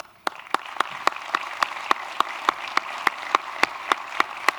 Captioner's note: applause